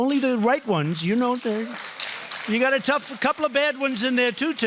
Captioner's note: applause